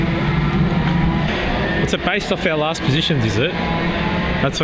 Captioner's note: engine noise